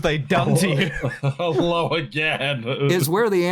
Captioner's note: laughing